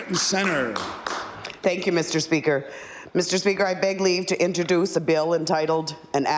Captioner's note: applause